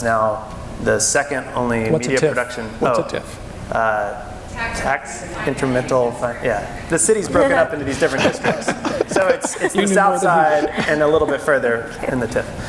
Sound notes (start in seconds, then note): 7.8 laughing